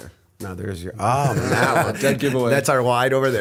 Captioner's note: laughter